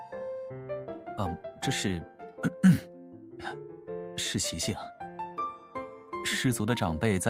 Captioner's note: cough